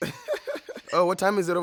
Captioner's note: laughs